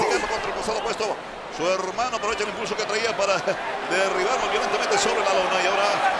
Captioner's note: laugh